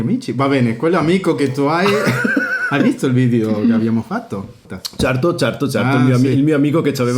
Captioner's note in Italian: risate